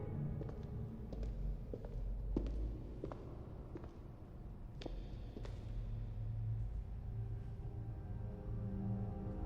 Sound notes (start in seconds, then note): 0.7 footsteps tapping